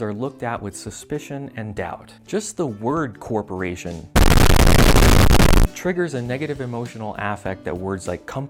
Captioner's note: loud static